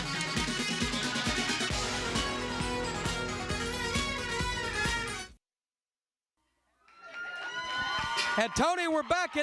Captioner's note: crowd cheering